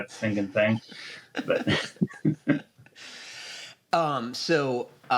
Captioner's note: laughter